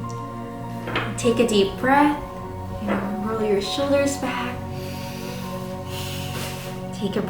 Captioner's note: breathes